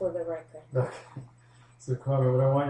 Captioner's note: laughs